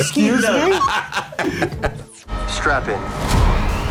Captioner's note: laughing